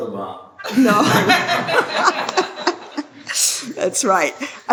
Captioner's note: laughter